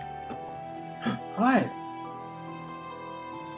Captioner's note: gasps